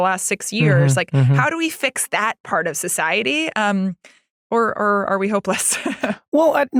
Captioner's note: laugh